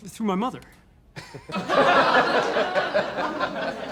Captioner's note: laughter